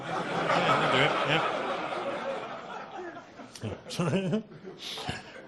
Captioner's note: audience laughing